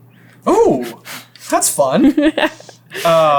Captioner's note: giggles